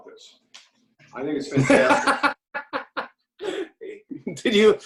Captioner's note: laughs